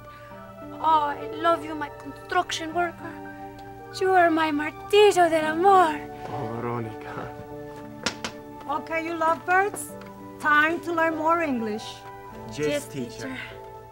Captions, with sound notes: Oh I love you, my construction worker. You are my martillo del amor! Oh Veronica. [Teacher tapping on chalkboard] OK you lovebirds. Time to learn more English. Yes, teacher.